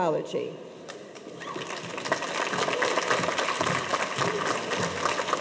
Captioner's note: audience applauds